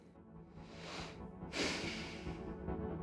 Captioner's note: exhales